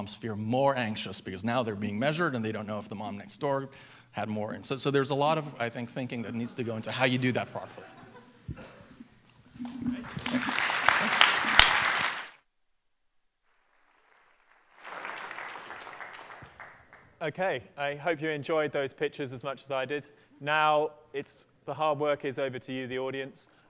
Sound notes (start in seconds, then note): 6.4 laughter; 9.6 applause